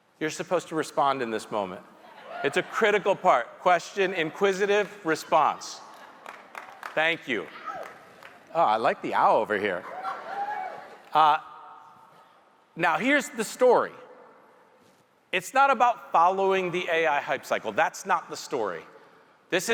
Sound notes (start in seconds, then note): 6.2 audience member clapping; 10.1 audience members chuckling